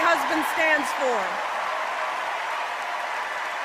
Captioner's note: applause